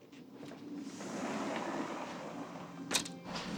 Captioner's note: door sliding